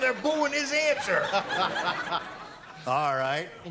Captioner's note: laughs